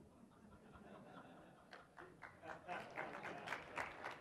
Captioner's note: audience laughs; audience applauds